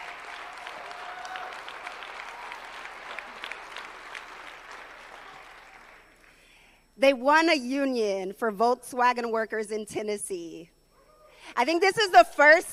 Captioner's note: applause